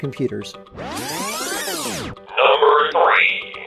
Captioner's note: videotape trilling; energetic music